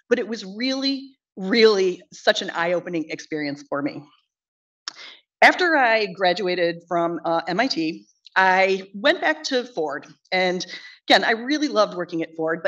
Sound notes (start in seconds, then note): none